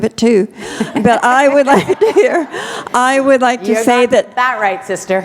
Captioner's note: laughter